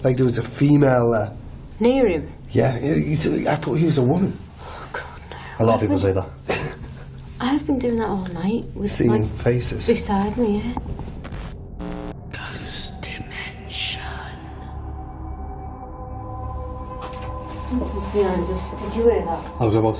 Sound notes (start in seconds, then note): 12.5 ghostly Voice